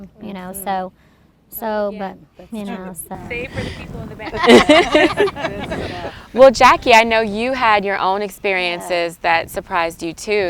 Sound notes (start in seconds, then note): 4.2 group laughing